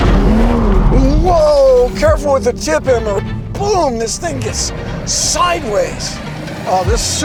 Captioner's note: boom